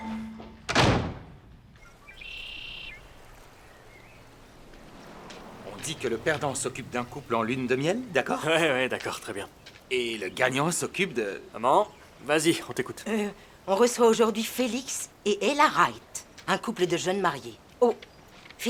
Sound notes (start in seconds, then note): 0.1 door closing; 2.3 birds chirping